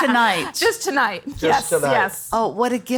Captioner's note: all laugh